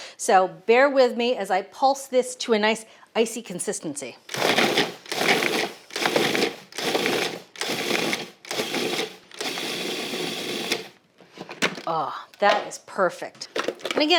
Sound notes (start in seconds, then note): 4.3 food processor whirring